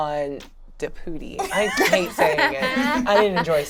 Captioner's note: laughs